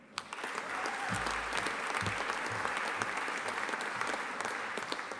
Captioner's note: audience applauding and cheering